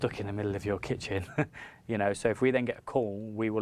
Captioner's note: laughs